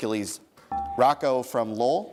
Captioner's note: dinging